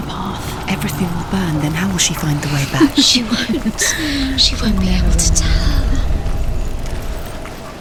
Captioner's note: laughs